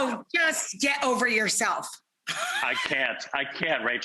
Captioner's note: laughing